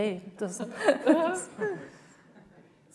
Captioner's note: audience laughs